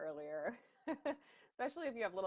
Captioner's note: laughs